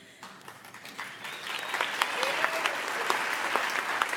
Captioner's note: audience applauds